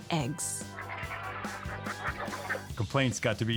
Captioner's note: bright upbeat music; chickens clucking